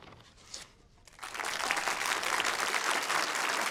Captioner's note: applause